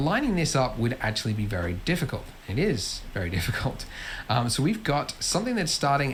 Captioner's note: laughs